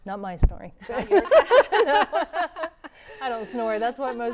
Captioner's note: laughter�